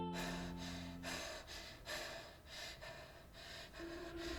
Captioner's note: Abby pants